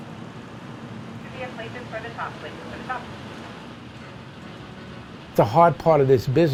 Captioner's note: faint voice on intercom